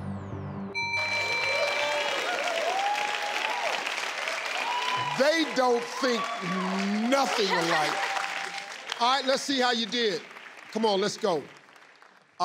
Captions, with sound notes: (ding) (crowd cheering) - They don't think nothing alike. All right, let's see how you did. Come on, let's go.